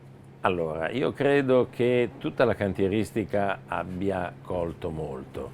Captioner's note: speaking in foreign language